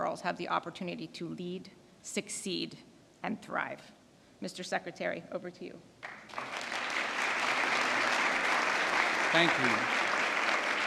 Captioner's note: applause